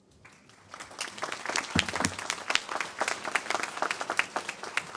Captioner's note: applause